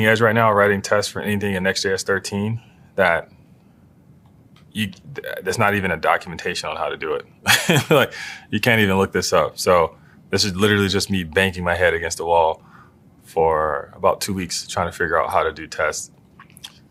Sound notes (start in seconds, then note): 7.4 laugh